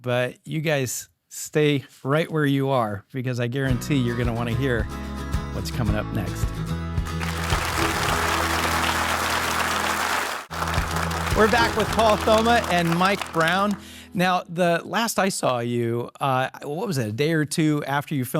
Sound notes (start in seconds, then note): 7.1 audience applauding; 7.3 bright music